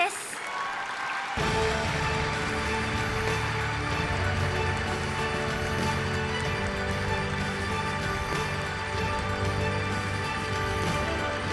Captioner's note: applause